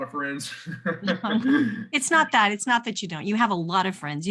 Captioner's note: chuckles